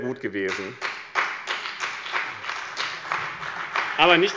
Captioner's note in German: Beifall bei dem BÜNDNIS 90/ DIE GRÜNEN und der CDU